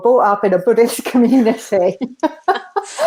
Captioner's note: both laugh